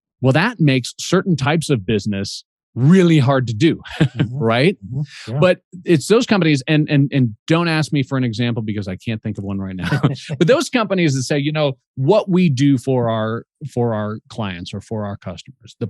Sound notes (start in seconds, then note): 3.6 chuckles